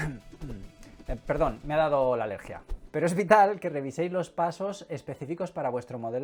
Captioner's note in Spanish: estornudo